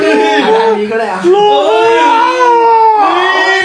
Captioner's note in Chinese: 歡呼聲